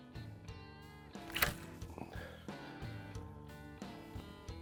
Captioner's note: line snapping